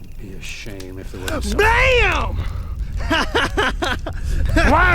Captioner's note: laughs